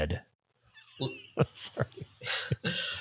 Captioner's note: laughs